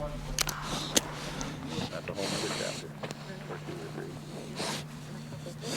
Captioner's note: wolf heavily breathing